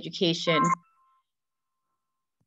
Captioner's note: phone rings